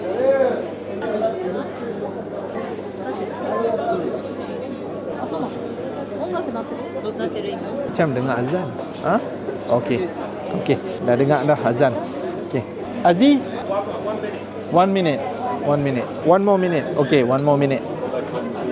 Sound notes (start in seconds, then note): 5.3 speaking Japanese